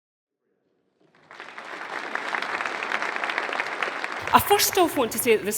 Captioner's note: audience applauding